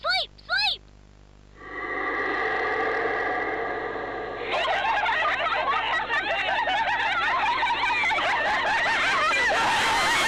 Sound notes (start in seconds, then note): 1.6 exhale; 4.3 laughing